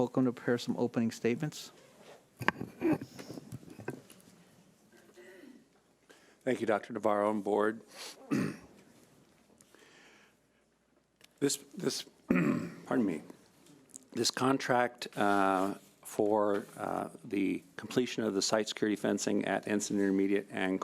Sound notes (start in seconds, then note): 12.3 clears throat